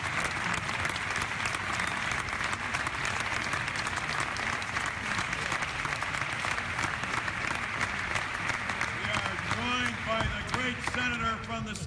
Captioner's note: applause